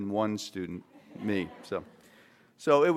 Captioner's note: laughter